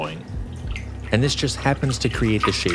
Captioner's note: water sloshing